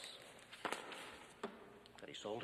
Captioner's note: file slaps